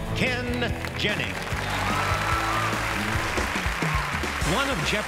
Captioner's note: audience applauds